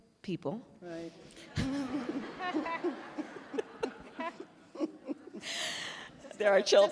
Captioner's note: laughter